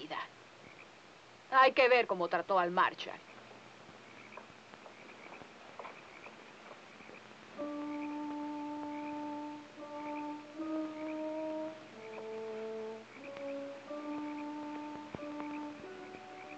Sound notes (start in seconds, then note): 4.4 frogs croaking; 7.5 gentle music